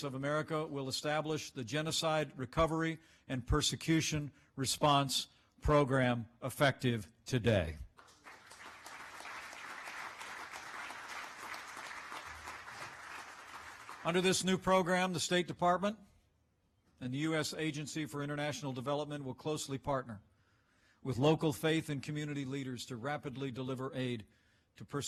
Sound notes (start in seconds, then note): 7.9 applause